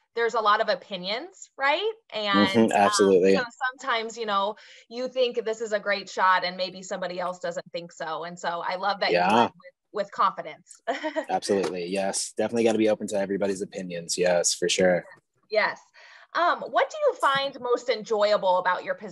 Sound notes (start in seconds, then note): 10.9 chuckles